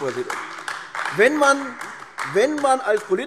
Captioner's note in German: Beifall AfD